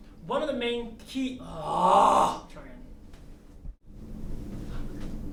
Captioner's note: groans